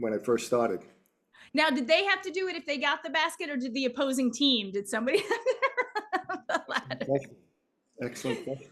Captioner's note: laughs